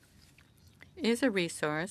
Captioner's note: speaking French